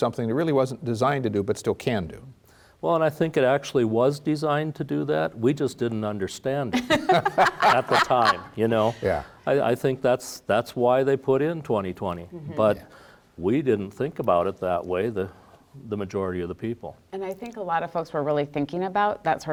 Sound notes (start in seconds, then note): 6.7 laugh